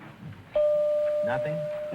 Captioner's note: bell chiming